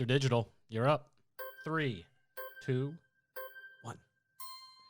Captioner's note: melodic timer